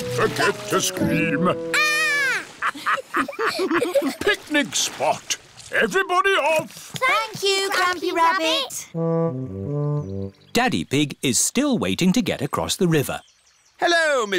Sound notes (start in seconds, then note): 2.6 laughter